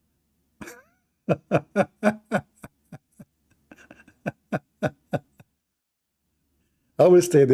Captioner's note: Ketawa